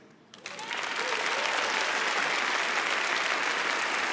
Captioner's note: audience applauds